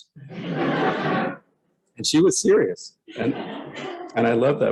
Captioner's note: laughter